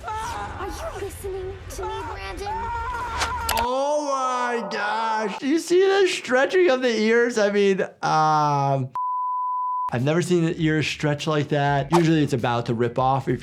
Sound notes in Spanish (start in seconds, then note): 9.0 pitido